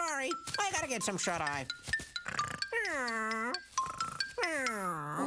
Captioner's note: snoring